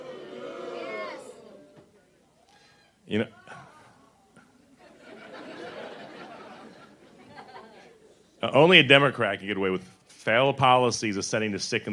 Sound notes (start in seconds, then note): 4.8 laughter